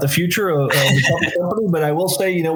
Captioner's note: chuckles